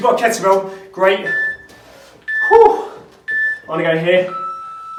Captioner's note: beeping